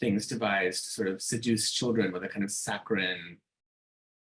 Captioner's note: laughing